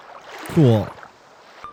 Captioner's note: sarcastically